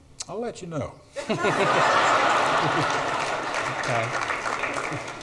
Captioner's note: audience laughs